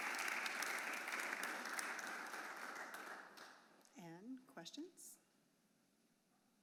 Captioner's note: applause